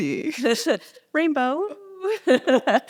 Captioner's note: laughs